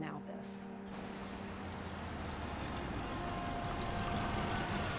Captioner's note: engine rumbling